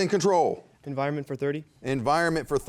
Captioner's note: students whispering